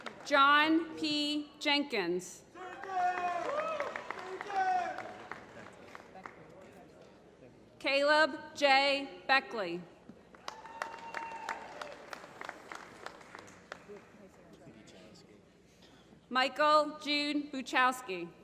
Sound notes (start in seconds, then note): 2.6 applause; 10.2 applause